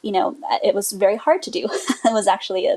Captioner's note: laughs